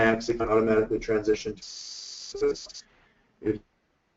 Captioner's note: static